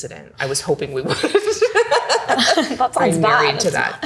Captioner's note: laughing